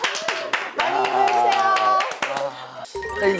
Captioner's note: hahahahahaha